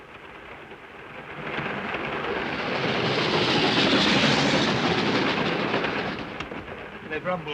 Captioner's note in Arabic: صوت خشخشة القطار; هدير القطار